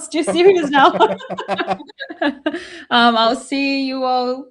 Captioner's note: laughing